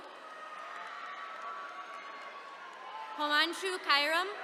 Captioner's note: attendees cheering